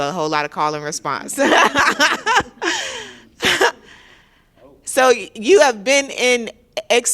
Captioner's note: laughter